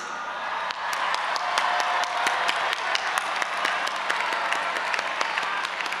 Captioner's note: audience applauding and cheering